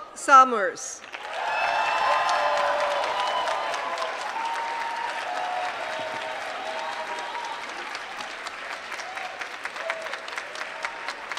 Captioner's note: applause